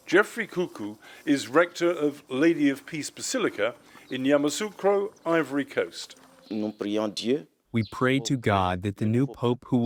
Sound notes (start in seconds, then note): 8.2 through translator